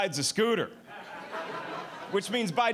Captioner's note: audience laughing